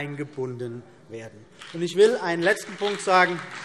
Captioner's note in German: Beifall CDU und BÜNDNIS 90/DIE GRÜNEN